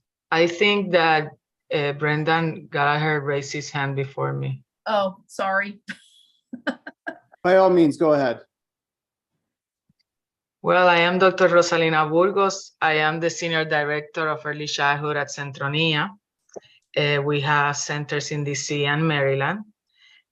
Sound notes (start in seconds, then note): 6.6 laugh